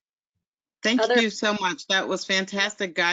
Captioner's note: voiceover